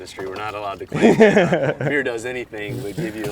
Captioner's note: laughs